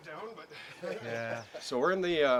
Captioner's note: laughing